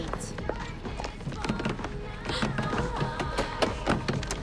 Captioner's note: rattles handle